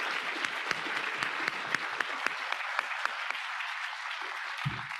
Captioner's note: audience applauding